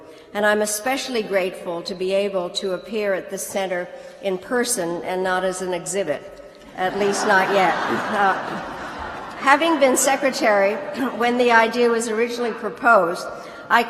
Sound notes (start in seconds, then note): 6.7 laughter